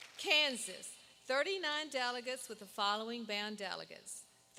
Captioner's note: applause